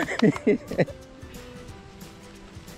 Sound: laughs

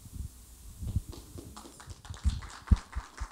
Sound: applause

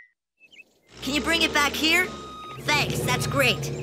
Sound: beeping

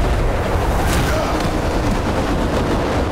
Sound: grunting

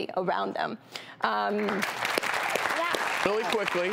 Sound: applause

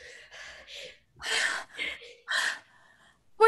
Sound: heavy breathing

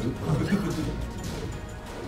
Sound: laugh

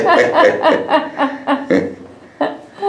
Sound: laughter

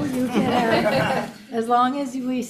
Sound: audience laughing

